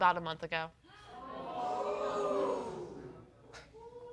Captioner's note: audience booing